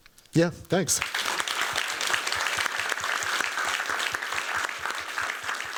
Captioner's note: applause